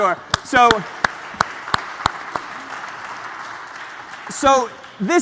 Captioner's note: applause